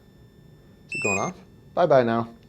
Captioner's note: beeping